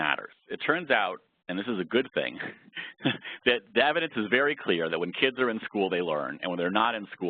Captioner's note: laugh